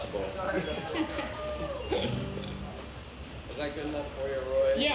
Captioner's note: band laughs